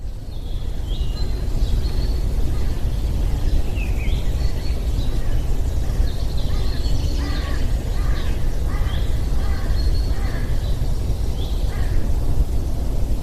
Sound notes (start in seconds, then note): 0.2 birds chirping; 5.6 birds cawing; 6.4 birds chirping